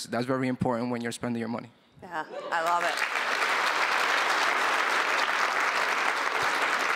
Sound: applause

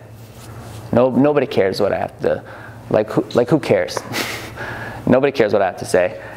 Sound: laughs

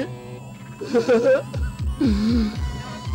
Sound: sobbing

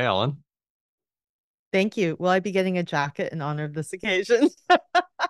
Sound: laughs

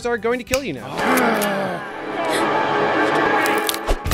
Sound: threatening growls

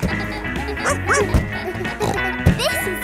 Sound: snorts; barks

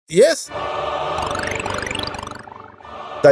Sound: computer game sounds; singing

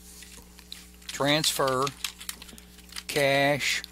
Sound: keyboard clacking

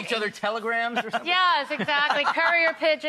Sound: laughing

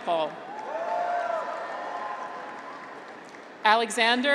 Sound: graduates cheer

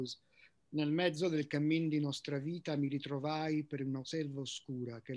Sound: speaks in Italian

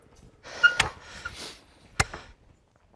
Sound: short squeak

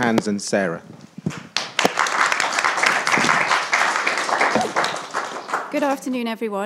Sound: attendees applauding

